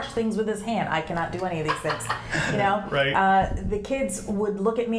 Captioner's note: laughs